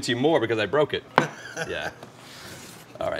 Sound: chuckles

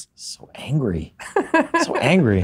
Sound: laughs

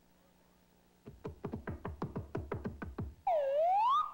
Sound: knocking

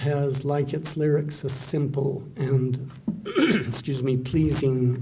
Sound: clearing throat

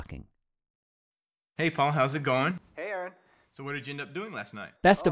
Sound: people talking

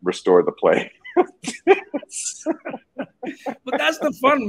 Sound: both laughing

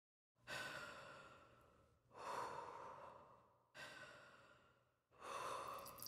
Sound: deep breathing

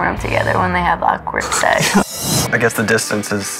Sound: laughs

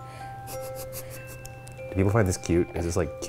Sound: snickers

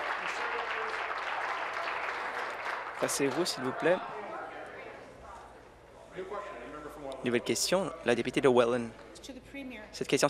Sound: applause

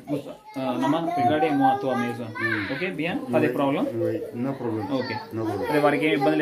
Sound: speaking in Foreign language

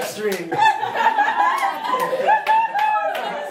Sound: laughing

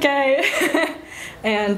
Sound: laughs

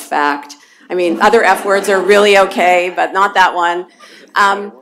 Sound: laughter

